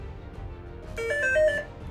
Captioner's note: buzzer